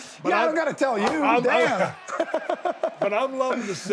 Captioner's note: laughs